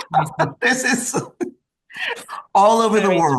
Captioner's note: group laughs